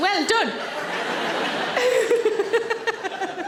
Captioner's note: audience laughing; Sarah laughing